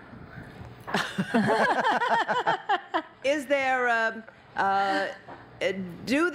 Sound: laughter

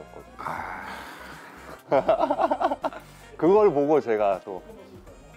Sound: laughter

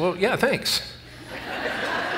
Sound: laughter

